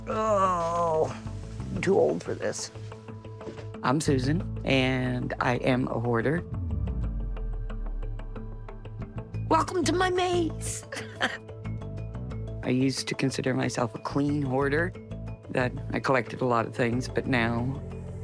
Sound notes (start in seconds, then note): 3.4 groaning; 14.0 chuckling